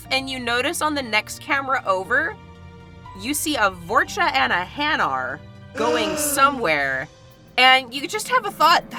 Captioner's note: gasps